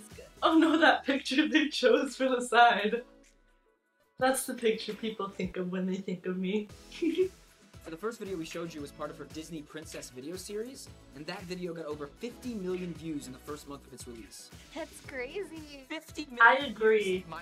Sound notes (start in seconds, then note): 6.7 giggles